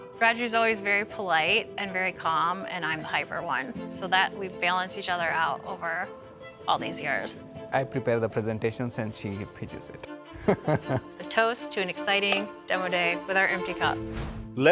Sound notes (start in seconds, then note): 10.4 giggling